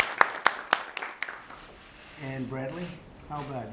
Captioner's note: applause